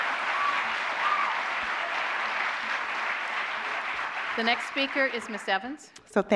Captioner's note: applause